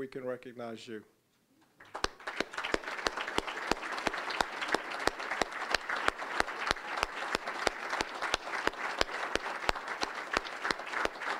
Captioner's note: applause